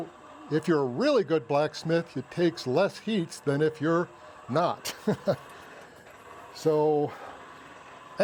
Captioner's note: chuckles